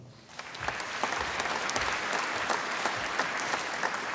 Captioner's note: applause